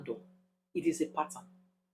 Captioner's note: paause